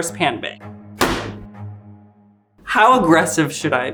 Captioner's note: pan banging